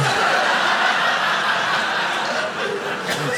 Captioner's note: audience laughing